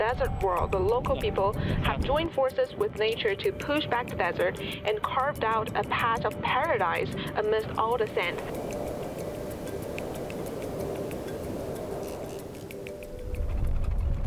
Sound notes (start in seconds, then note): 8.1 water splashing; 11.3 speaking chinese